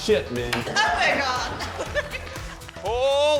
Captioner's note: laughs